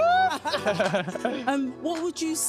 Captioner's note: laughter